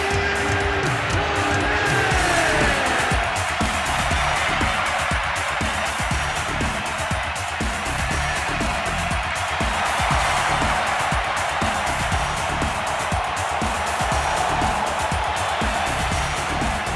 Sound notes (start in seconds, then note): 5.1 crowd cheering